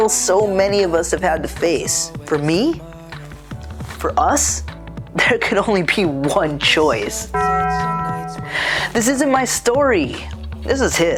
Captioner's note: ding